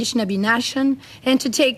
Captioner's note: speaking French